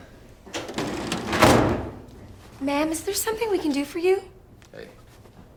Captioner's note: drawer closes